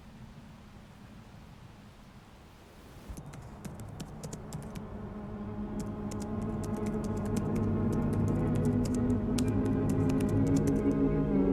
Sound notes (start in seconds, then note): 3.1 computer keys clack; 4.4 dramatic eerie music